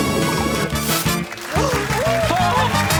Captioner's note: gasps; cheering and applause